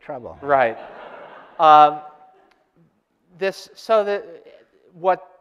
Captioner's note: audience laughter